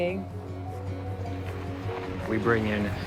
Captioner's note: car whirring